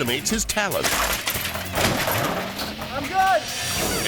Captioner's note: bike clatters; body thuds